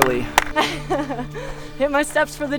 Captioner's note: laughter